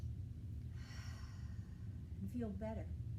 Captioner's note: inhale; exhale